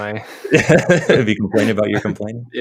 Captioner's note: chuckling